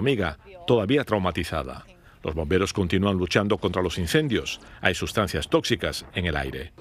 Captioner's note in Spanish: habla en ingés